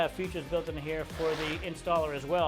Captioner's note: shingle scratches